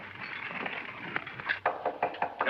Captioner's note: door knocks